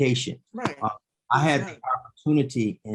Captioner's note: faintly speaking